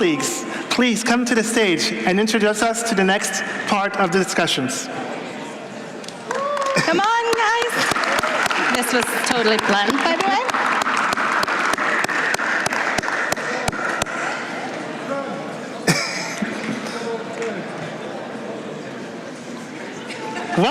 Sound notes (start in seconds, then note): 6.2 applause